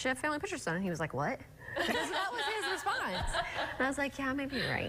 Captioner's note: laughter